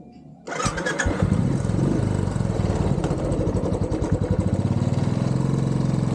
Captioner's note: engine starts